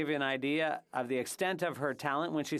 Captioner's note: speaking French